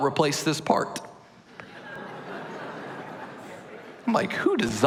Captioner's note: laughter